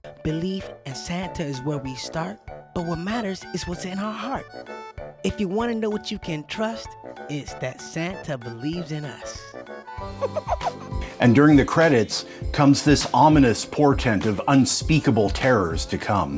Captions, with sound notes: (rapping) Belief in Santa is where we start. But what matters is what's in our heart. If you want to know what you can trust, it's that Santa believes in us. (giggles) And during the credits, comes this ominous portent of unspeakable terrors to come.